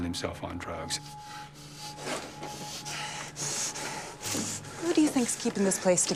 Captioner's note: heavy breathing